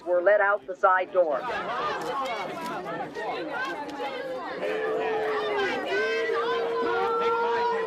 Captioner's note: crowd clamoring, camera shutters clicking